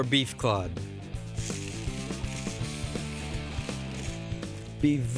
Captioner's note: sprinkling